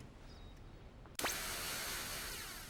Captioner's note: static